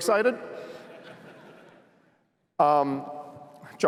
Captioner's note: laughter